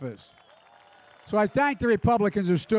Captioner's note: applause